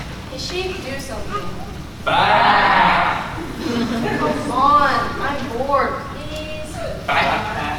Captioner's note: baaing